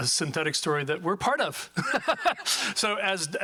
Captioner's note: laughs